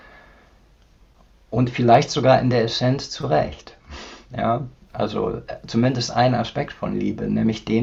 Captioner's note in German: schnauben